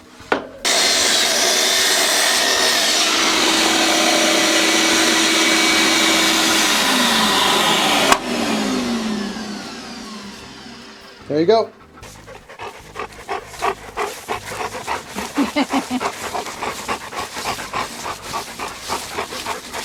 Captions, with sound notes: (electric saw whirring) - There you go. (dogs panting) (woman laughing)